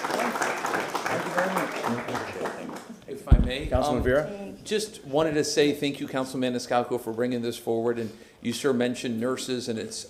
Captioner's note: applause